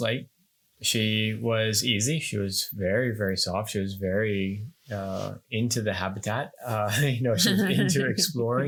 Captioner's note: laughing